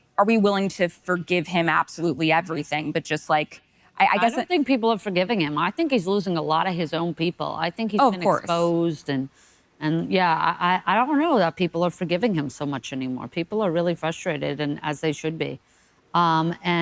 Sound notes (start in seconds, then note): none